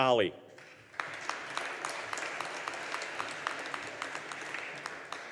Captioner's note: audience applauding